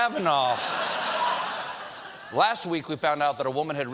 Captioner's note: laughter